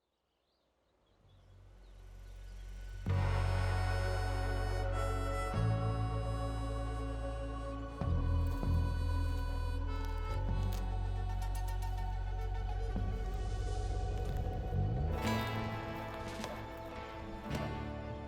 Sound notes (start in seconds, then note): 3.1 soothing music; 10.9 footsteps crunching; 10.9 soothing music